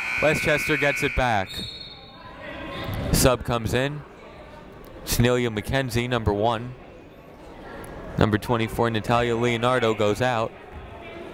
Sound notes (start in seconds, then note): 1.8 whistle tweeting